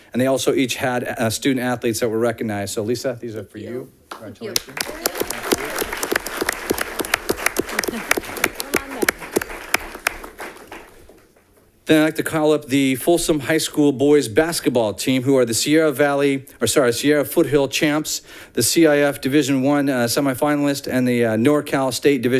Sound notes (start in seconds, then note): 4.5 audience clapping